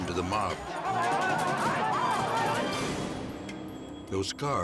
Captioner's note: mob clamors